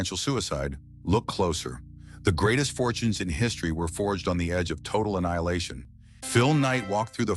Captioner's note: SFX: low dramatic bass drop